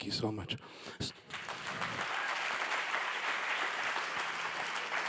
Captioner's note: audience applauding